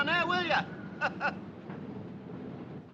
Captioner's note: Risos